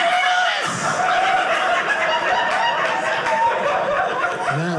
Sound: audience laughing

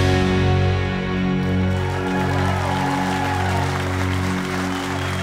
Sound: cheers and applause

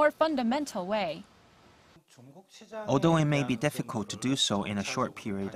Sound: Korean

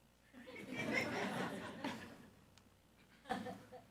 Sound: audience laughs

